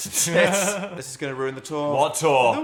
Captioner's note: Dan and Phil laughing